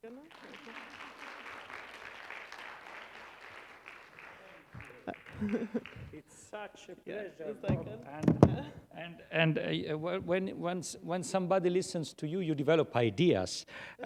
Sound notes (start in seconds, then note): 0.0 applause; 4.2 chuckles